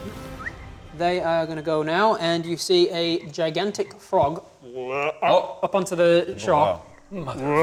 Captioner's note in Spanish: Bleugh; Ruidos de rana gigantesca